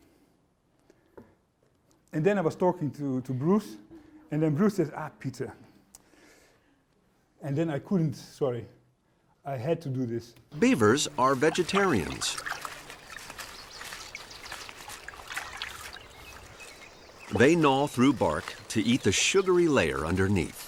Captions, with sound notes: And then I was talking to Bruce, and then Bruce says, "Ah, Pieter." And then I couldn't -- sorry -- I had to do this. >> Beavers are vegetarians. [ Splashing Water ] They gnaw through bark to eat the sugary layer underneath.